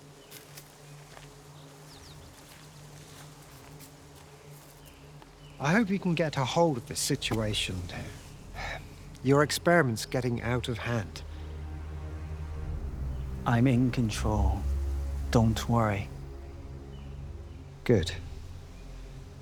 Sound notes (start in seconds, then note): 0.2 birds chirping; 0.2 footsteps plodding; 8.4 sighs; 11.4 brooding music